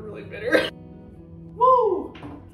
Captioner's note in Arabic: بكاء